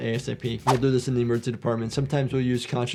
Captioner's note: audio whooshes